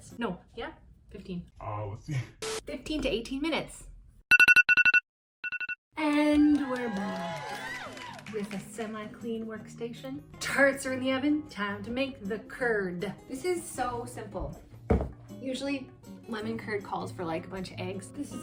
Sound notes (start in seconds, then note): 2.0 distorted voice; 2.8 normal voice; 4.3 timer rings